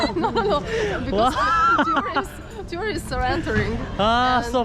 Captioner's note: laughing